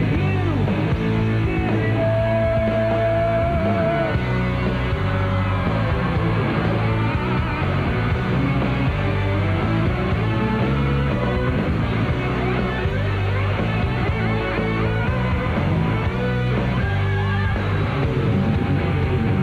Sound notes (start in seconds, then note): 1.9 applause